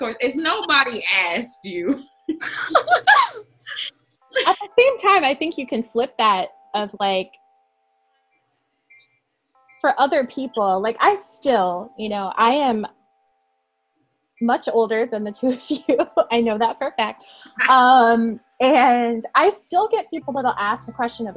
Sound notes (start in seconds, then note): 2.4 all laughing